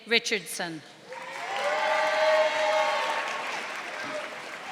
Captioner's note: audience applauding